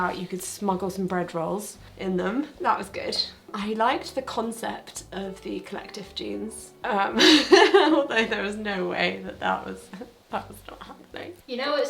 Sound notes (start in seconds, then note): 7.2 laughs